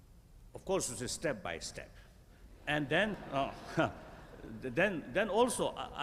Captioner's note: laughter